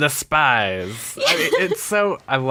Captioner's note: laughs